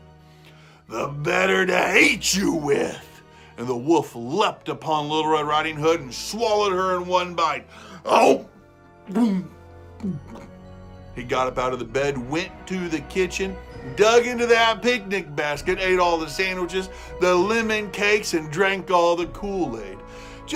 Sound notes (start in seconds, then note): 10.0 gulping